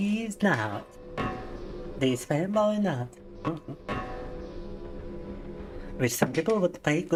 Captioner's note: laughing